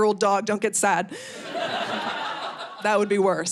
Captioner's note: audience laughing